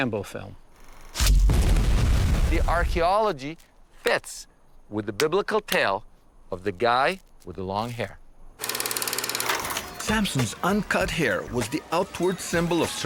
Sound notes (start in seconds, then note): 1.2 loud explosion